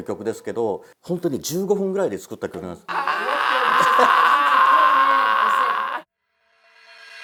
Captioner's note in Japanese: 叫び声